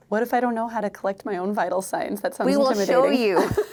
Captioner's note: laughter